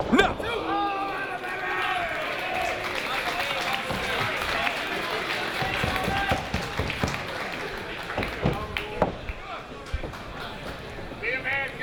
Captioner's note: applause